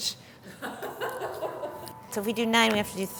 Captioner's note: laughing